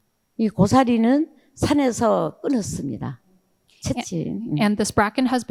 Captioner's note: speaking in foreign language